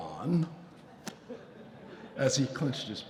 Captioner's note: audience chuckling